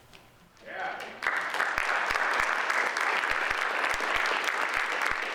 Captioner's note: audience applauds